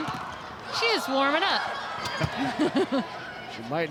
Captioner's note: chuckles